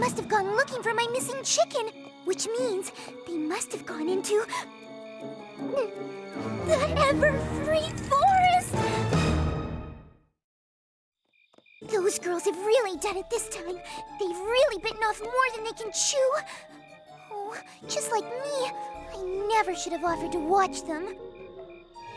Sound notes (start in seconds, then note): 4.6 gasps; 5.6 gulps